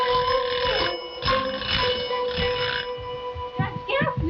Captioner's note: bell ringing